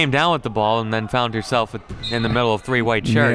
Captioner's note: referee blows whistle